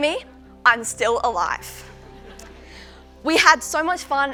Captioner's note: laugher